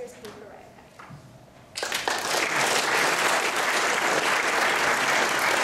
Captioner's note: applause